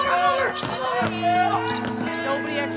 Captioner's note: people exclaiming